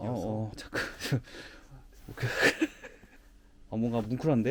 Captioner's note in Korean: 허탈한 웃음